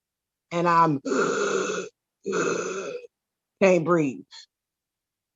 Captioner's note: gasping